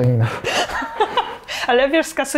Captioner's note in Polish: śmiech